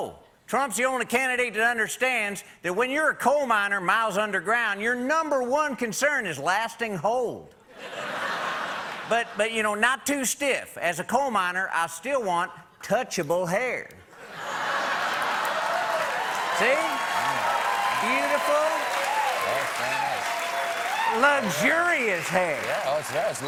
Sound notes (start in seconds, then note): 16.3 cheers and applause